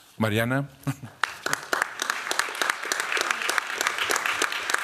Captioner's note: applause